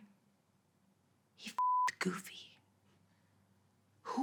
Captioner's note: beep